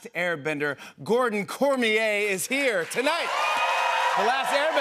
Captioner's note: cheers and applause